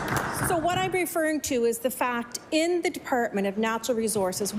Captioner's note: applause